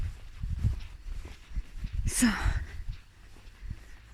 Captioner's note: steps